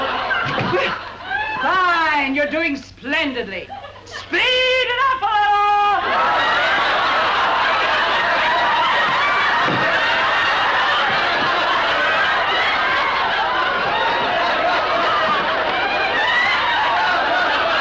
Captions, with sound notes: - Fine, you're doing splendidly. Speed it up a little! (audience laughs)